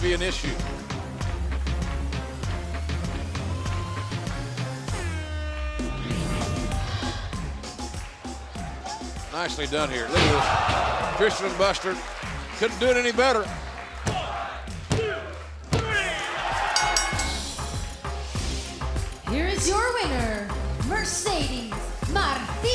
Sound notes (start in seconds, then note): 16.7 bell ringing